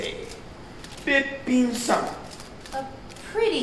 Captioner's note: speaking Japanese